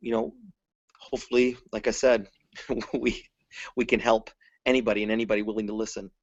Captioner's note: laughs